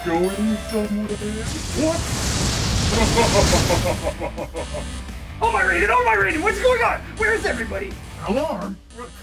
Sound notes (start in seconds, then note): 2.9 Quan Chi laughs